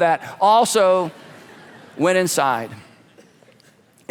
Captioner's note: congregation laughing